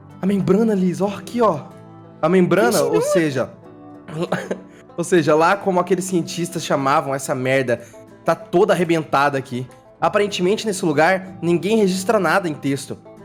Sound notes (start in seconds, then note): 4.1 clears throat